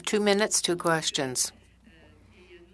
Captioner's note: speaking in French